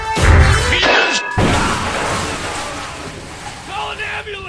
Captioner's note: screaming